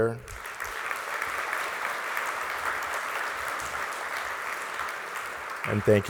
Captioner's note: applause